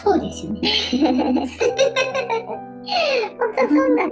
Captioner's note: laughs